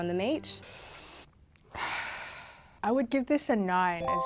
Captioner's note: exhales sharply; inhales deep; bell chiming